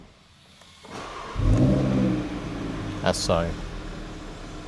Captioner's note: car starts